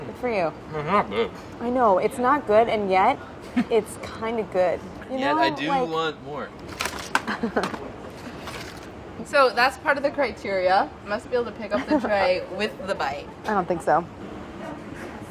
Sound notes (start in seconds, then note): 3.2 chuckles; 7.2 chuckling